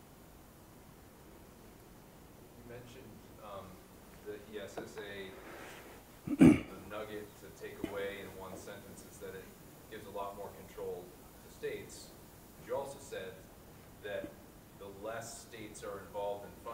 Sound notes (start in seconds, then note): 3.1 voiceover